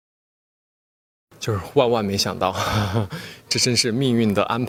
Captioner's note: laughs